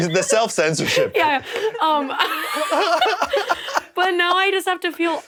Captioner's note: laughs